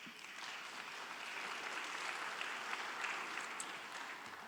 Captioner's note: audience applauding